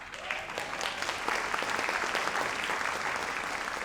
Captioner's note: audience applauds